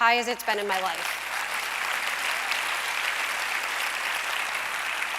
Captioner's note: applause